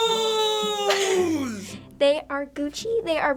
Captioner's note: giggles